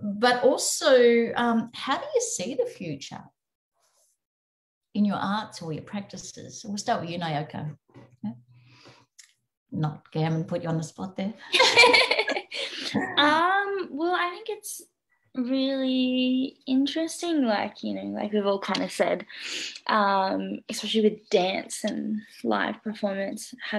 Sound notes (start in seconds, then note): 12.8 laughing